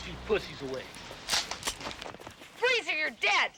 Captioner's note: gun cocking